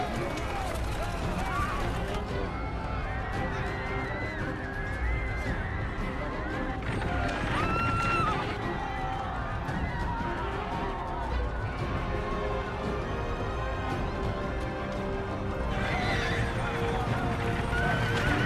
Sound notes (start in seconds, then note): 0.0 dramatic music; 0.3 yelling; 12.6 dramatic music